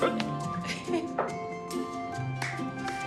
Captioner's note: laughing